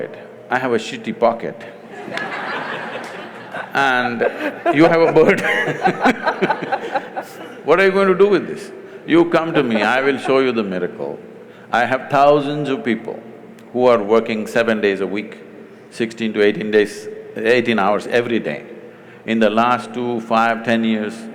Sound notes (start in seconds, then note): 1.8 laughter; 5.1 both laugh